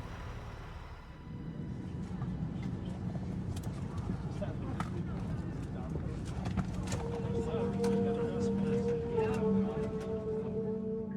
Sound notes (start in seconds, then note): 4.0 people chattering; 6.4 gentle pensive music